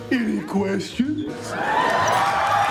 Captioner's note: audience cheers